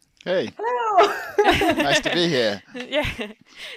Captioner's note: all laugh